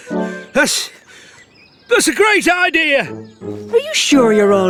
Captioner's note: struggling